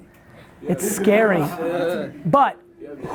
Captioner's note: laughs